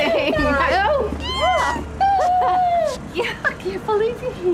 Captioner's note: ellie squealing